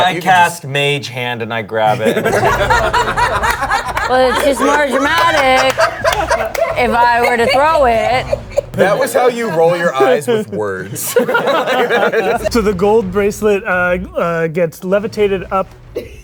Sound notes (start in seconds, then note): 2.3 laughing; 11.5 all laughing